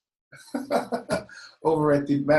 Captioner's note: laughs